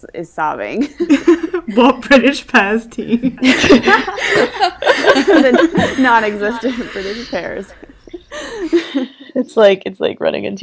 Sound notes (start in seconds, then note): 2.9 laughs; 3.0 hosts laugh